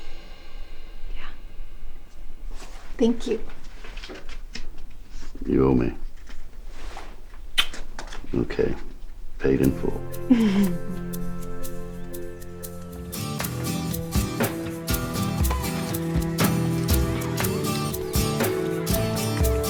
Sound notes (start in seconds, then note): 7.5 lips smacking; 9.9 soft upbeat music; 15.4 campers faintly shouting